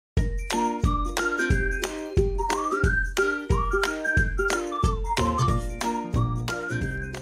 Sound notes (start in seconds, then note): 0.0 whistling loudly; 0.2 bright music